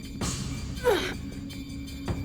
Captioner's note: woman grunts